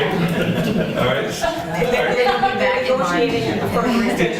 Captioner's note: laughter